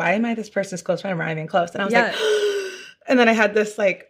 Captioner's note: gasps